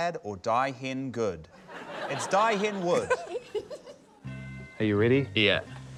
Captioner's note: laughter